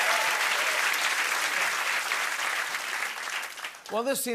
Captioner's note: applause